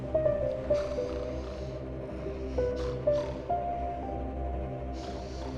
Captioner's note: snoring